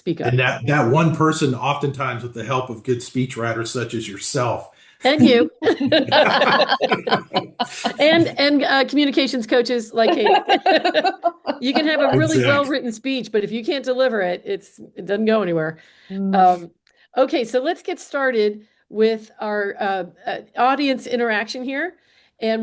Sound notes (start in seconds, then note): 5.1 all laughing; 11.0 laughs